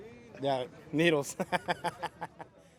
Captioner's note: laughs